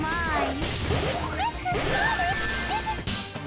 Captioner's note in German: Kampfgeräusche; Freudige Musik